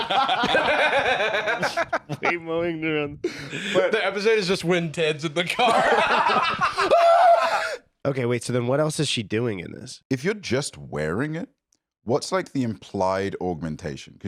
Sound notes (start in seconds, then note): 0.0 all laughing; 6.8 screams